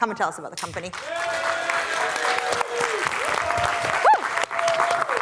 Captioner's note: cheering, applause